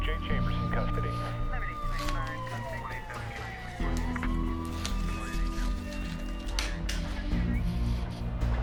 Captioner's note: sirens